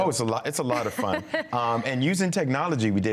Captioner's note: journalist laughs